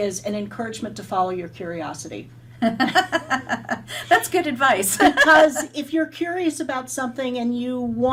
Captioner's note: laugh